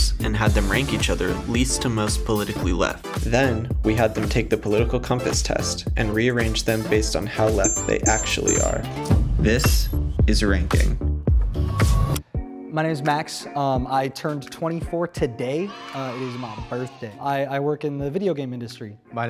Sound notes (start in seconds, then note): 13.5 calm music; 15.2 children cheer